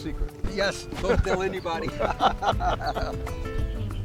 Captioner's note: laughing